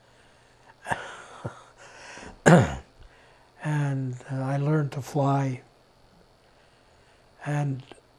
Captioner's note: laughing